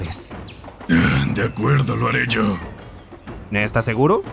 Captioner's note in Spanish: suspira